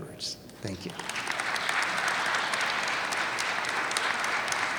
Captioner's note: audience applauding